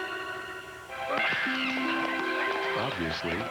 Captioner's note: screeching and clapping